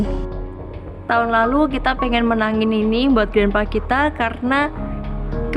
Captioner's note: in Indonesian